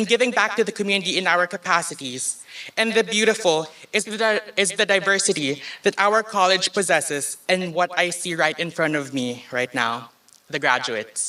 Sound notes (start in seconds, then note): none